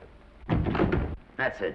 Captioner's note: doors latching